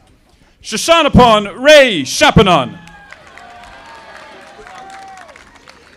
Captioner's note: audience applauding